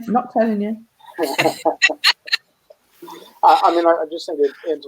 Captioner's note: laughing